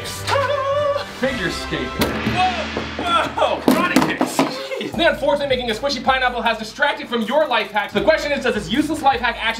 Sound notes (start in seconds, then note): 1.8 crash; 1.8 bang; 1.9 gong